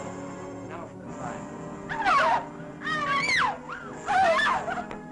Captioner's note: girls screaming; dramatic music